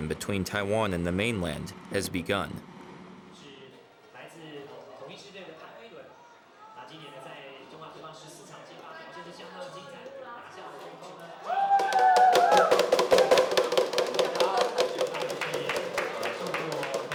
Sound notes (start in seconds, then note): 4.5 speaking in Chinese; 11.3 cheering